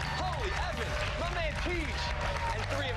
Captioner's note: cheers and applause